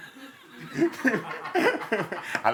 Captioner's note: laughs